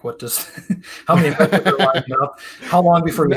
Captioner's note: laughter